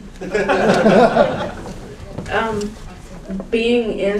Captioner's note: audience laughs